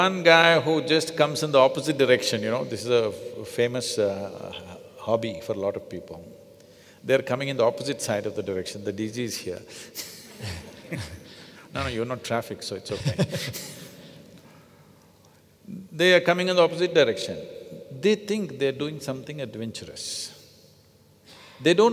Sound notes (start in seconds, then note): 10.0 laughs; 12.8 Prakash laughs